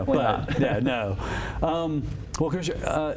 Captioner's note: chuckles